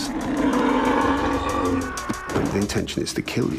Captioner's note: screaming